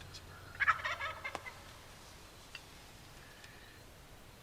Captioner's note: turkey gobbling